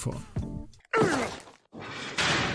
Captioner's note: ground hitting noise